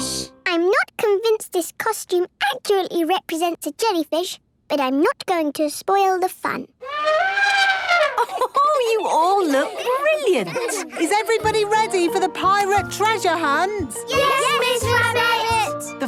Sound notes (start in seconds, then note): 6.8 trumpeting; 8.0 Mummy Pig laughing